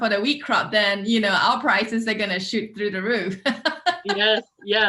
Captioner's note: laughs